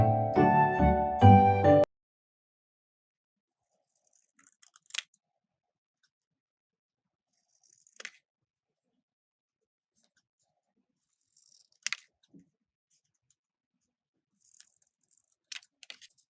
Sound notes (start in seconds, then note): 3.1 cutting paper